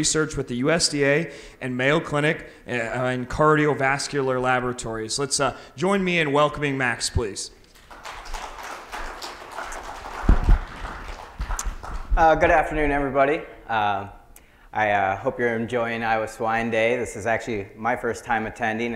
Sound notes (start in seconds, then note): 11.9 crowd applauding